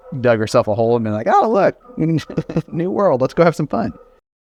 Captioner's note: laughs